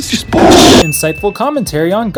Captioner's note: ding